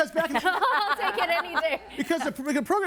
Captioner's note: laughing